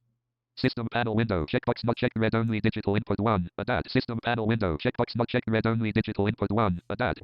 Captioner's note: automated voice